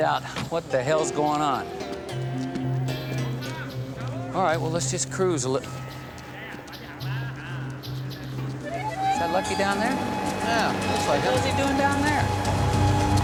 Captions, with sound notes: to find out what the hell's going on. All right, well, let's just cruise a li-- (man chattering in distance) Is that Lucky down there? - Yeah, looks like him. - What's he doing down there?